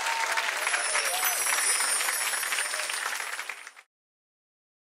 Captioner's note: sparkle noise